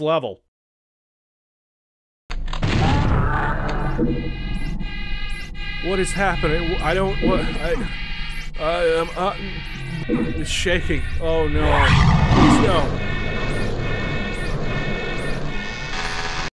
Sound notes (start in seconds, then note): 4.5 loud siren; 9.9 loud siren continues